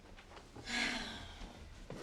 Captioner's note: sighs